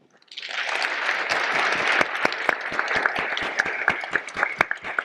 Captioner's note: audience applauding